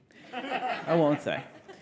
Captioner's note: audience laughing